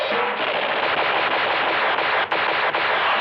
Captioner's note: rapid fire